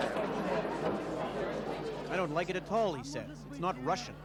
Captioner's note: speaking in Russian